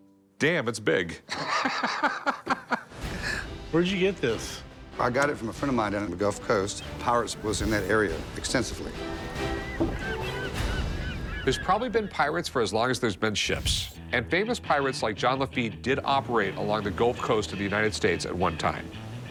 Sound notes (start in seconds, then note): 1.3 laughter